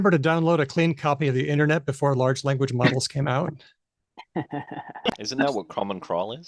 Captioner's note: laughs